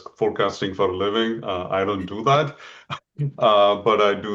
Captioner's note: laughs softly